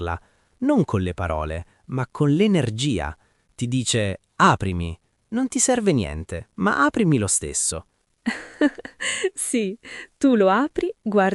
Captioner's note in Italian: risate